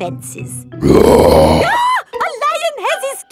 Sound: roars; screams

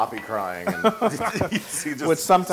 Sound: laugh

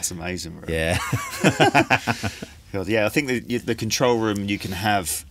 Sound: both Laugh

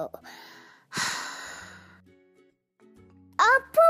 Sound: sigh

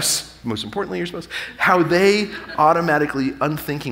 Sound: audience laughing

